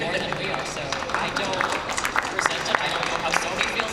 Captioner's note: applause